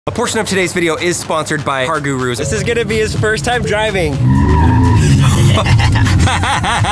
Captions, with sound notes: - A portion of today's video is sponsored by Car Gurus. This is going to be his first time driving. (screeching sound) (laughing)